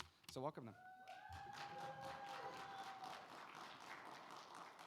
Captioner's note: audience applauding